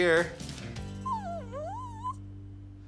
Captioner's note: dog whimpers